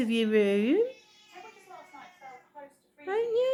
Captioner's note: meow